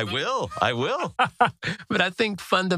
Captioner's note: laugh